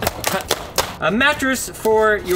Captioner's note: plastic snaps